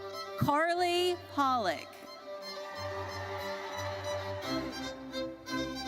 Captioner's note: audience cheers